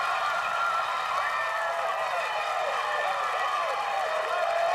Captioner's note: cheering